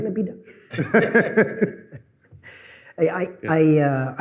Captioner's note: laughter